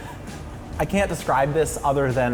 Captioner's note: laughs